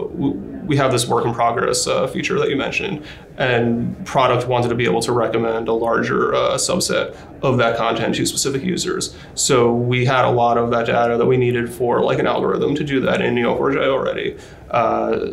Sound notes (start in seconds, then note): none